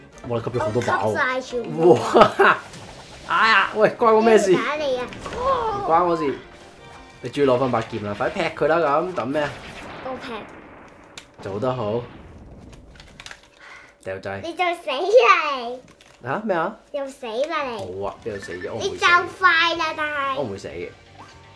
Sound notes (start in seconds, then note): 13.6 gasps